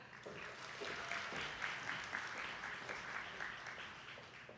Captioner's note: attendees clapping